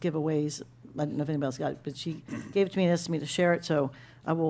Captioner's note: clears throat